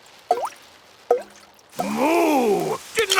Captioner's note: water dripping